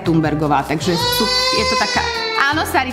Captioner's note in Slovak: plač dieťaťa